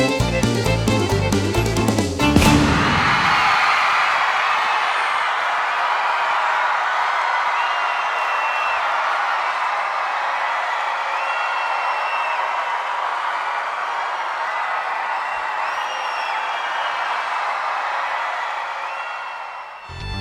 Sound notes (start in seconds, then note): 2.7 applause